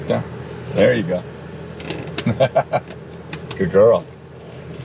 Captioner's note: presenter laughing